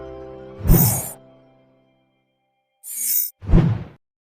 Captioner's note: wind whooshing